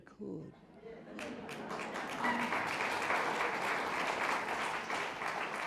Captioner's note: audience applauding